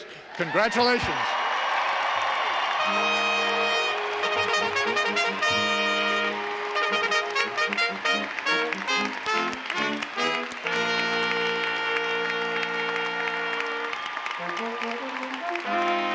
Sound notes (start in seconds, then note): 3.1 applause and fanfare music